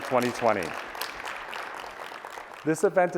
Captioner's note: applause